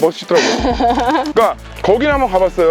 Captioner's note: laughter